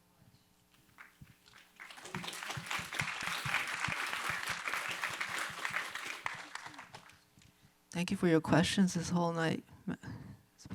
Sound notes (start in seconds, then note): 0.9 audience applauds